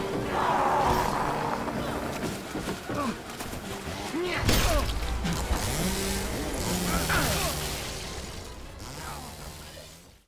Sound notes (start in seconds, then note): 0.3 monsters growling; 5.0 chainsaw revving